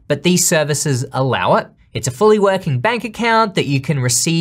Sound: none

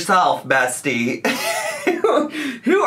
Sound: laughing

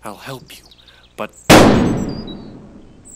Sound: gunshot

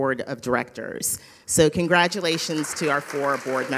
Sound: audience applauding

